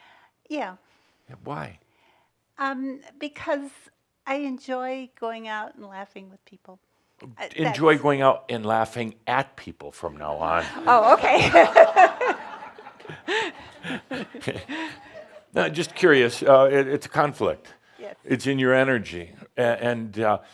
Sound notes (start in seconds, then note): 10.6 laughter; 13.1 she laughs